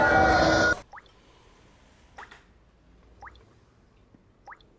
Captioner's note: water drips